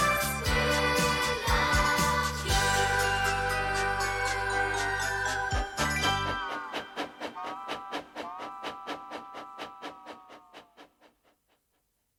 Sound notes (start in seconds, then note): 6.0 tooting